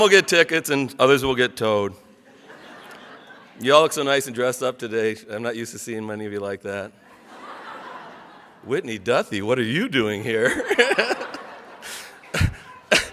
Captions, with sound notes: Some will get tickets and others will get towed. (audience laughs) You all look so nice and dressed up today. I'm not used to seeing many of you like that. (audience laughs) Whitney Duthie, what are you doing here? (laughs)